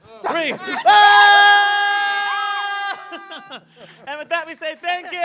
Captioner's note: and students shout